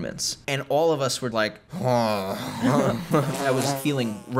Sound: grumbling

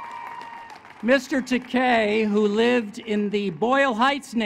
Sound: applause

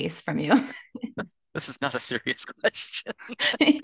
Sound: laughs

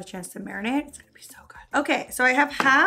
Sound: whispering

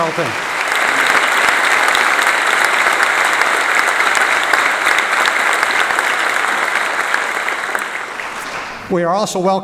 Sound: applause

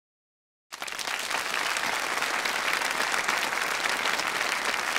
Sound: audience applauds

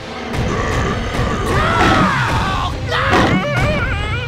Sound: screaming

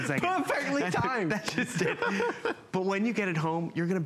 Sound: laughter

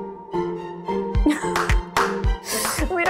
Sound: chuckles

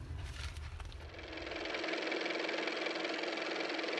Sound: car motor

